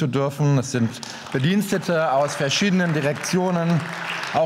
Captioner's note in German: Beifall